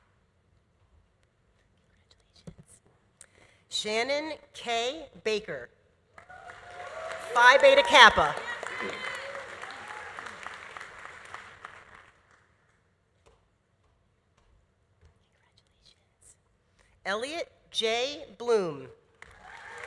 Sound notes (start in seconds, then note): 6.2 audience applauding; 6.3 audience cheering; 9.8 audience applause continues; 9.8 audience cheering continues; 19.2 audience applauding; 19.3 audience cheering